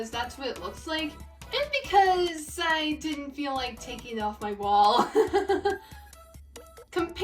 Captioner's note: laughs